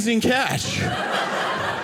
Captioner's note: audience laughing